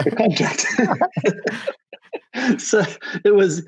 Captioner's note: both laughing